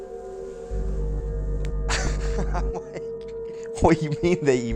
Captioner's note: laughs in amazement